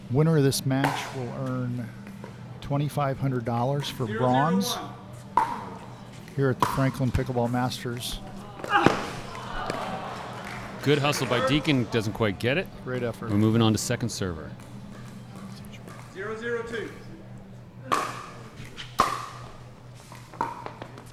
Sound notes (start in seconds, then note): 7.9 crowd; 9.2 light applause; 18.9 ball being hit